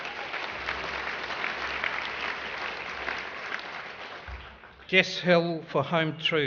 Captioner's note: applause